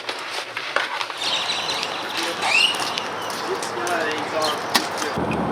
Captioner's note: birds chirping